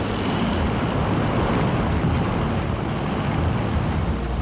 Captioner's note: airplane zooming